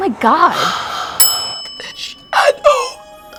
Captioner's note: bell rings